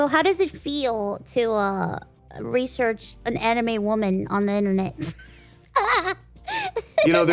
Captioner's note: laughs